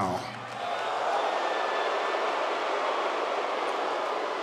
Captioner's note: audience jeers